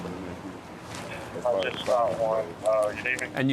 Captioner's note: indistinct chatter